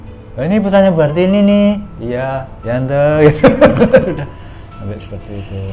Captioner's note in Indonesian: tertawa